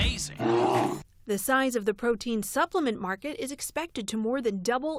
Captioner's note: voice-over